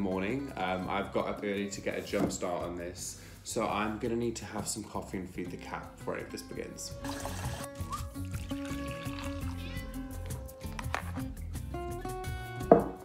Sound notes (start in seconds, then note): 7.0 gentle music; 7.0 liquid pouring; 9.2 Nellie meows